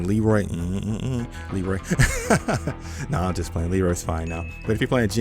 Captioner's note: laughs